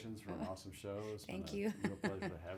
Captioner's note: laughs